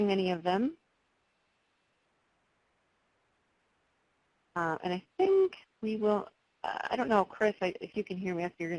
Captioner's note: pause